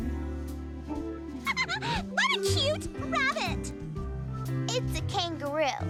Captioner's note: laughing